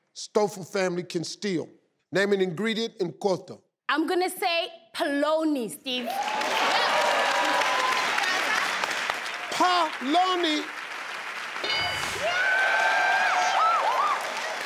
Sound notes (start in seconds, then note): 7.1 cheering; 11.6 dings; 12.3 cheering